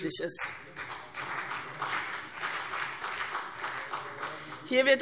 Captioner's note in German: Beifall CDU und BÜNDNIS 90/DIE GRÜNEN